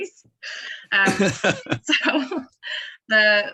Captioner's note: laughter